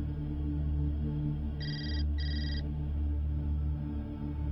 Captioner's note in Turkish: Telefon çalıyor